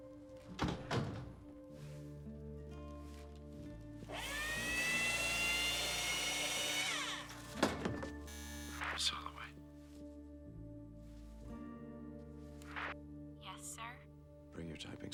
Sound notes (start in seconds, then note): 0.6 door closes; 8.3 intercom buzzes